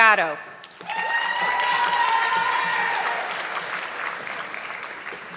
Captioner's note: audience clapping